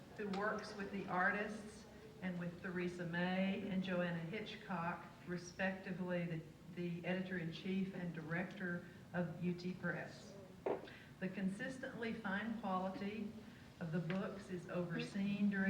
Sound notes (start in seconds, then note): none